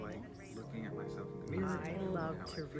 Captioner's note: indistinct chatter continues